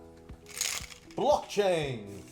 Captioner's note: toy rattles